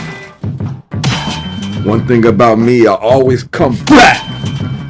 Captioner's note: gunshots